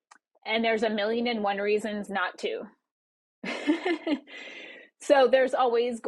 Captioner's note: laughs